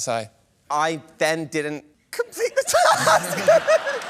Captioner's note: laughter